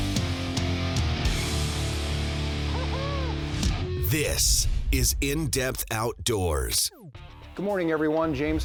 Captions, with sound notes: (excited yelling) - [Voiceover] This is In Depth Outdoors. - Good morning everyone,